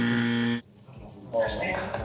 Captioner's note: buzzer; clapping